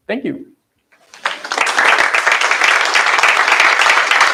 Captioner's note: applause